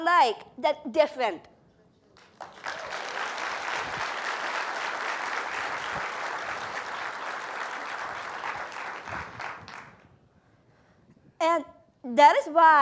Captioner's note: applause